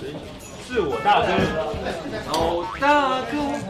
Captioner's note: with a really funny accent